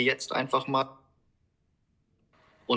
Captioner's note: silence